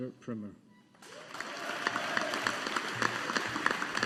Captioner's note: audience applauding